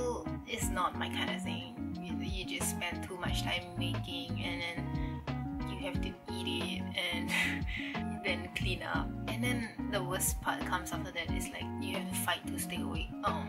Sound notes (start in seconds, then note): 7.3 chuckle